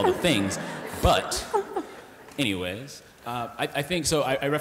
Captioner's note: laughter